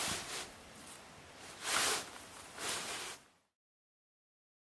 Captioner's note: tarp rustling